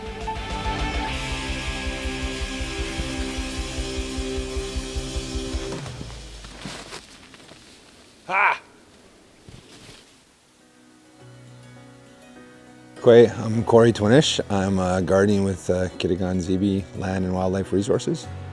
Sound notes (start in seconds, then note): 0.0 upbeat rock music; 0.1 Mario Kart race sound; 6.6 snow crunching; 10.6 light music